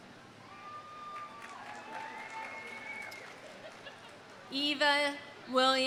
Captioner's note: audience cheering; audience applauding